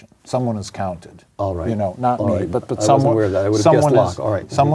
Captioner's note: multiple voices speaking